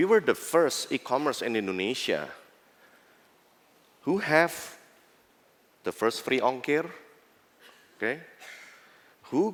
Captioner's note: non-english